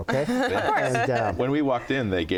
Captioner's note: laughing